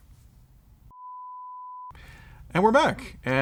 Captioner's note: tone